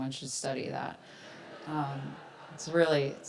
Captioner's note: audience laughs